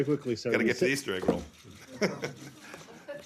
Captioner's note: laughter